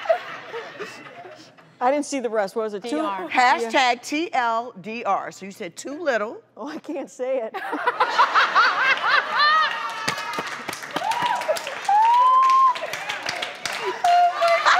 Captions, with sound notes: I didn't see the rest, what was it, too-- Hashtag, TL;DR, so you said "too little". Oh, I can't say it. (laughter)